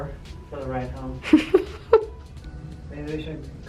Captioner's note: chuckles